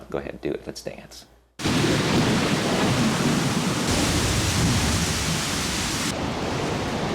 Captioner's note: rain pattering; wind howling